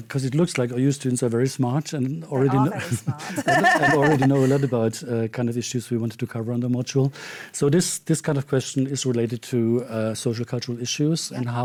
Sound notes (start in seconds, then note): 2.4 laughs